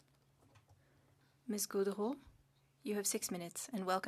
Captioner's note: speaking French